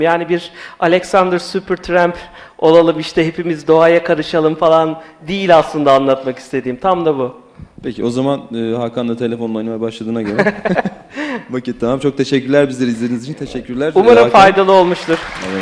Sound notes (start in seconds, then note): 10.2 laughs; 14.2 applause